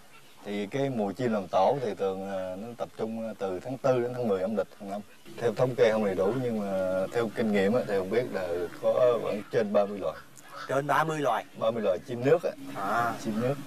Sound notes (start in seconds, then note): none